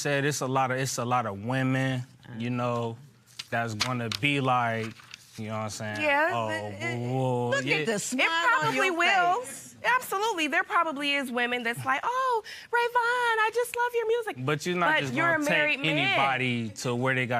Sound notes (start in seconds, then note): 12.4 high-pitched voice